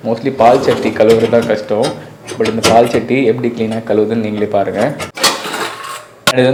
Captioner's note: speaker noise